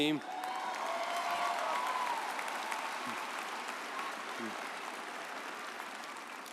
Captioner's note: audience cheering